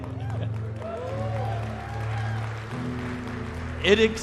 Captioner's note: congregation cheering